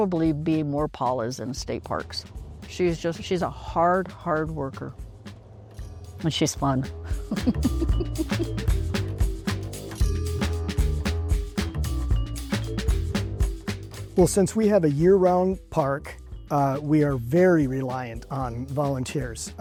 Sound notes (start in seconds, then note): 7.0 laughs